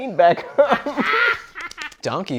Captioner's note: laughing